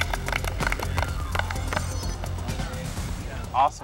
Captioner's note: apapplplauausese